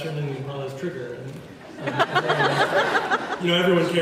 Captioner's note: laughs